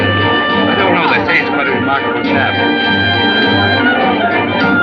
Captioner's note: crowd Chattering